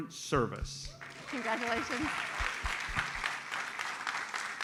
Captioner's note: audience applauds